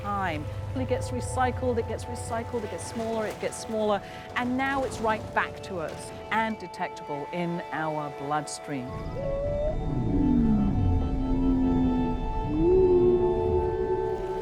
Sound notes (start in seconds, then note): 8.9 whale whistles and groans